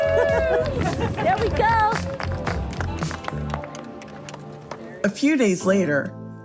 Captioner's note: crowd clapping